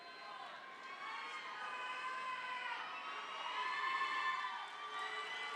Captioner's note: people cheering